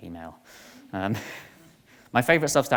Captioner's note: chuckles